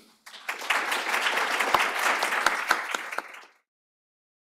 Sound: applause

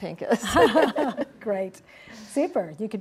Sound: laughter

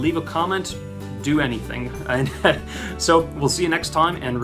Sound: laughter

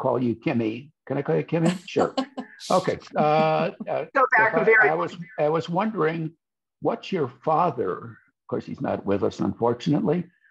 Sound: laughs

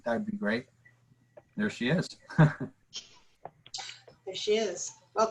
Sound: laughter

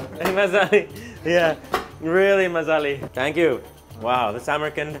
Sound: in foreign language

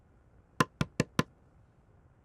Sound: door knock

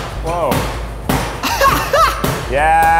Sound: laughing

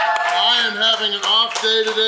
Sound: crowd claps

